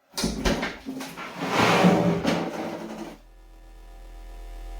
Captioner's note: door opens